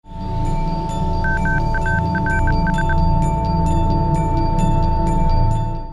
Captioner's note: high-pitched chimes and beeping